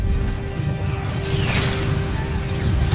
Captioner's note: sword whoosh; growls & groans